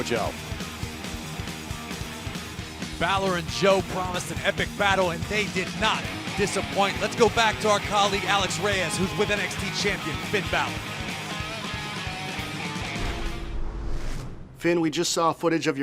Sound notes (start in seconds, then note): none